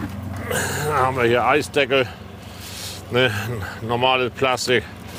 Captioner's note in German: ächzt